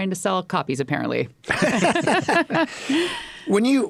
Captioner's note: group laughs